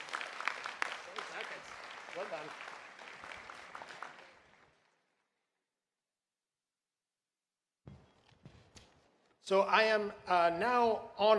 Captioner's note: applause